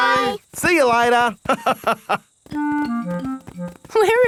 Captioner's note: laughs